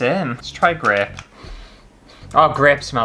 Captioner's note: sniffing